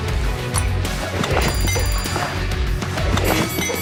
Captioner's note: ding, ding, ding